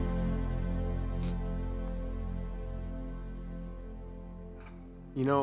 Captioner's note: soft sniffles